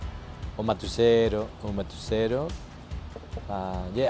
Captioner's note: foreign